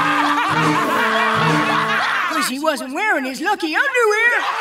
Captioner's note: laughing